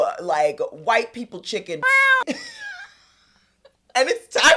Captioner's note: meow